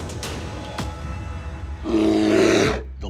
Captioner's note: growl